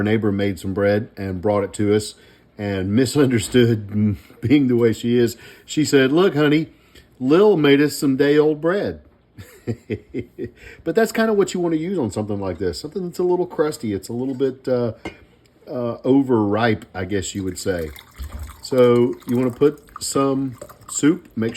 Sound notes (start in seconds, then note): 9.4 laughing